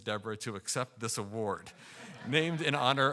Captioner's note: audience laughing